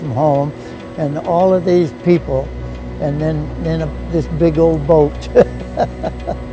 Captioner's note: laughs